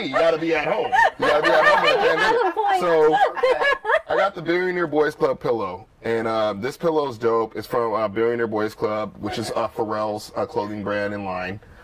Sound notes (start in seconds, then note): 0.0 laughter